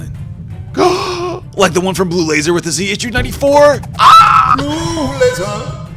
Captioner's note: gasp